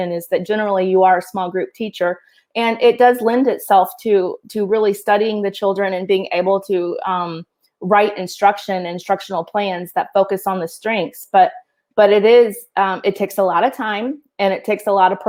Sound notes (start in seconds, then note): none